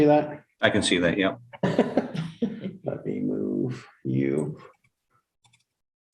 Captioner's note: laughter